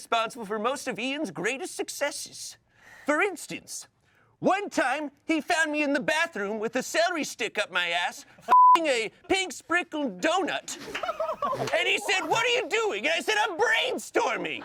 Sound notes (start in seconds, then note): 8.5 beep; 10.6 everyone laughs